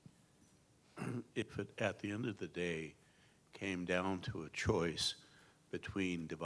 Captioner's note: cough